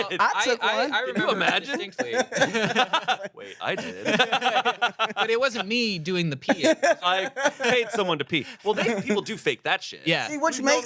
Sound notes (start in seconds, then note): 1.0 everyone laughs